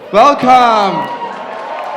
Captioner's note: cheering